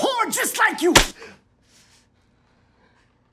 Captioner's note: smack